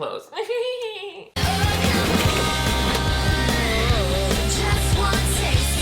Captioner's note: laughs; upbeat music; metal clanging